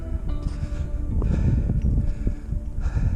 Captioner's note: wind noises